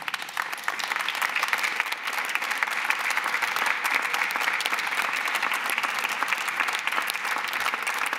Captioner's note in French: Applaudissements